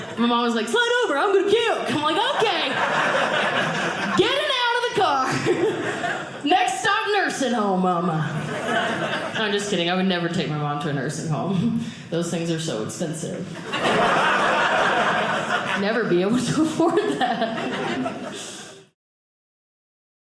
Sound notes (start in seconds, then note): 13.5 audience laughing